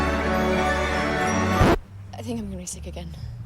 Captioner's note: record scratches, music stops